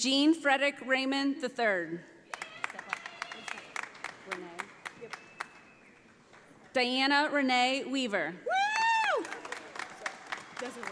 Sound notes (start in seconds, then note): 2.3 audience applauding; 9.0 audience applauding